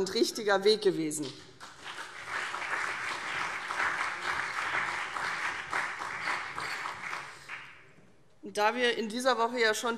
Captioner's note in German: Beifall CDU und BÜNDNIS 90/DIE GRÜNEN